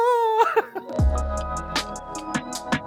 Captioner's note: laughs